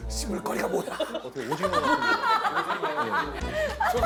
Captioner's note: phahahahahah